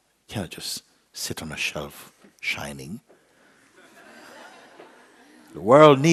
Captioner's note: laughter